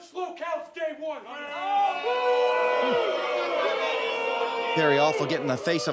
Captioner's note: audience boos